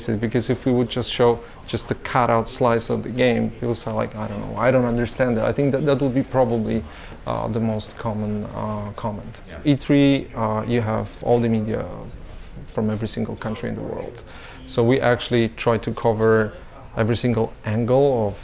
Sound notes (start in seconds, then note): none